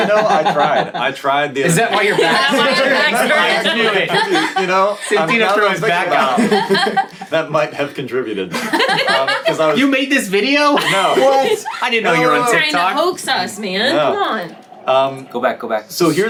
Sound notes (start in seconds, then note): 3.2 all laughing; 8.5 all laughing